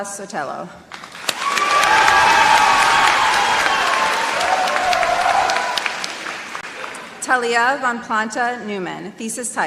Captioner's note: applause